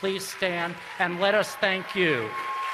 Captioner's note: applause